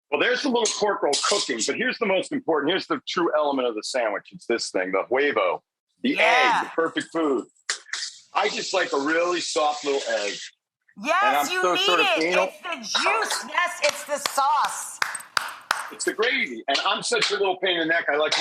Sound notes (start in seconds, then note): 13.1 applauds